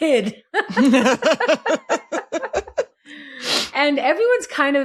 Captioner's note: laughs